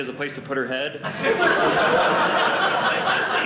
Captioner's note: audience laughing